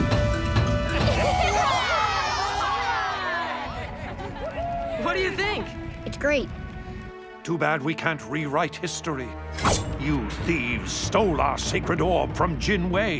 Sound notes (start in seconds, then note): 1.0 cheering